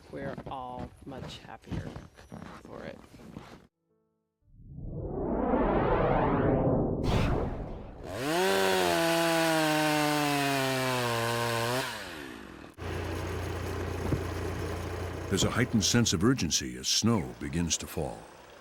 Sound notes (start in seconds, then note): 4.4 map whooshing; 8.0 chainsaw buzzing